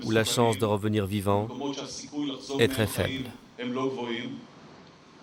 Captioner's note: Hebrew spoken audio